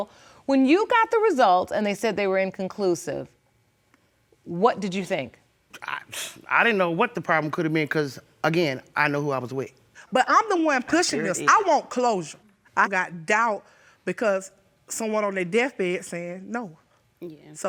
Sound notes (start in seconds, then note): 6.0 scoffing